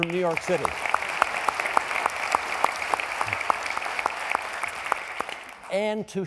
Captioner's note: applauding